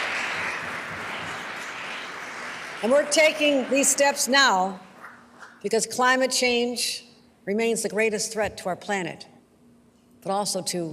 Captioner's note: applause